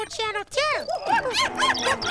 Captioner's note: roaring; hooting